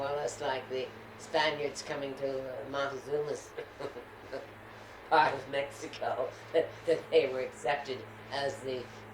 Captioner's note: laughs